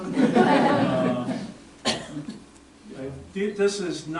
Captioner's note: audience laughter